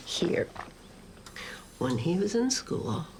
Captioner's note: machine pumps